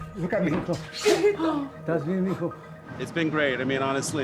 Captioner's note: speaking in Spanish